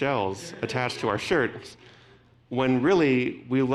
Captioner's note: audience laughing